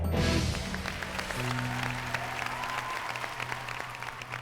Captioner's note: applause